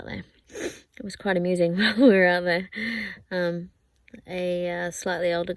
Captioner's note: sniffs; laughing